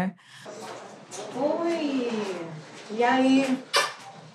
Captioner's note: speaks foreign language